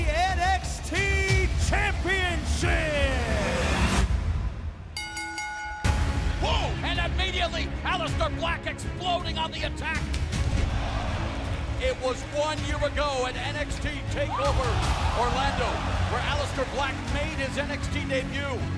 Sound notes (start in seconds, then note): 4.9 bell ringing; 10.5 crowd cheering